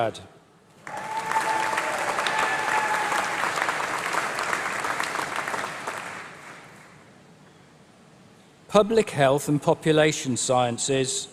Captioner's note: applause